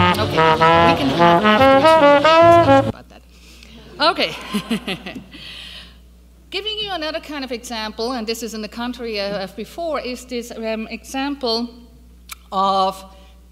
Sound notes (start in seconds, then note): 4.2 laughs